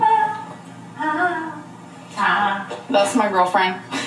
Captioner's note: wifey humming